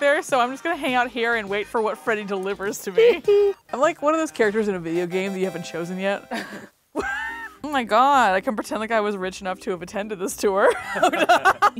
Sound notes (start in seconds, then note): 7.0 chuckles; 10.6 laughs